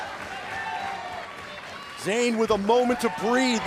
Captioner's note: crowd cheering